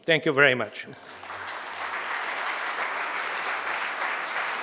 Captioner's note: audience applauds